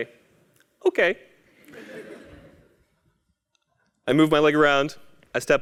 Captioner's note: laugh